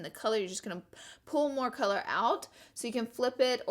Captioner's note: breathes